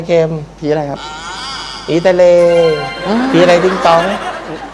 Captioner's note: laughter